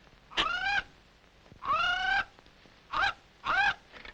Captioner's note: Sinbad squawking